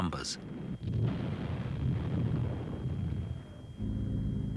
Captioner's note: bombs blasting